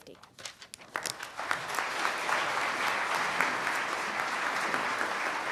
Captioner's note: applause